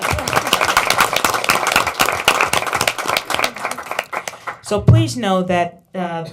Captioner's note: applause